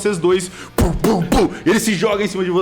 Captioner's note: heavy footsteps